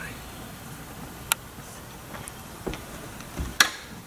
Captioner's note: whispering to himself